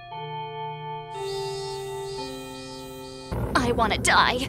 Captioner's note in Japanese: チャイム